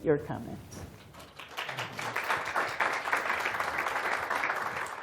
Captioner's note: applause